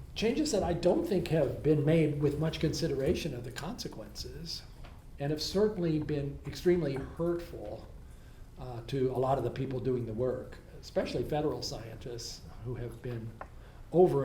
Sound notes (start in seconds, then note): none